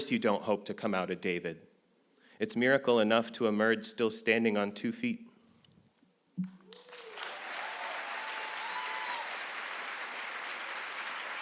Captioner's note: applause